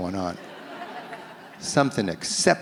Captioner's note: audience laughs